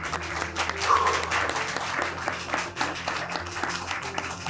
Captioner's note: audience applauds